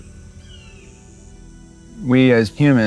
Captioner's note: birds cawing